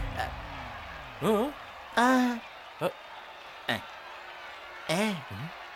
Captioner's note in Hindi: तालियाँ